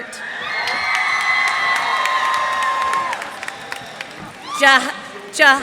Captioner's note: cheers and applause